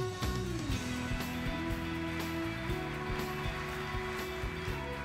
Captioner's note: audience applauding